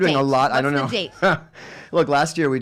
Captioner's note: laughing